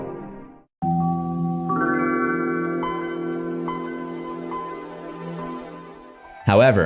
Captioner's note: Windows 95 startup sound